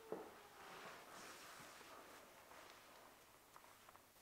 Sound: SIRENS stop

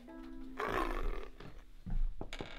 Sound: snarl

